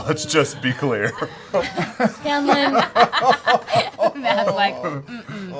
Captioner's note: laughter